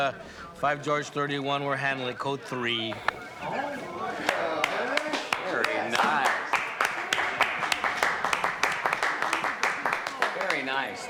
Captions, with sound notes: Uh, Five George 31. We're handling a Code Three. (murmuring) Yes. Very nice. Very nice. Nicely done.